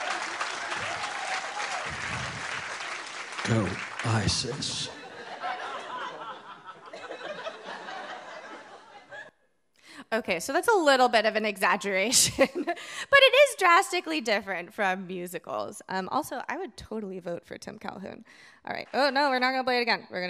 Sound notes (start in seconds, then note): 0.0 audience cheering; 4.3 audience laughing